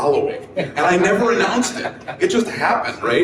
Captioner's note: people laugh